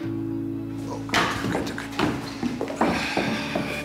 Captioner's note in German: Herr Zech stöhnt